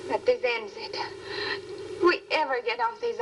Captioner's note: speaking swedish